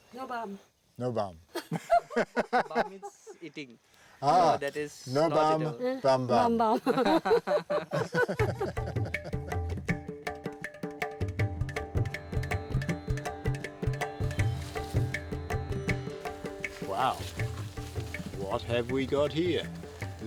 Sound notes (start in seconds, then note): 1.4 laughs; 6.6 all laughing; 8.3 dreamy music